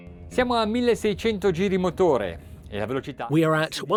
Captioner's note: speaking in foreign language